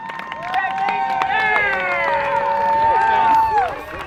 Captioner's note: cheering